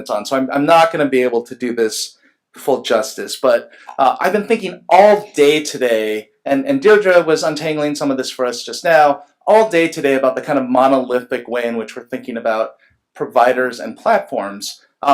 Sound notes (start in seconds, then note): none